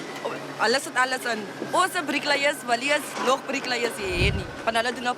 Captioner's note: speaking foreign langue